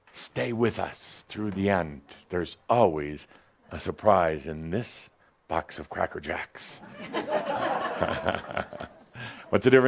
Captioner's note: some laughter